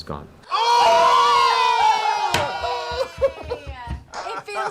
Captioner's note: cheering